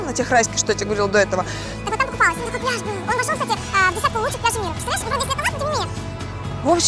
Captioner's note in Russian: быстрая перемотка слов